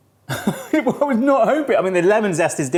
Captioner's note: laughs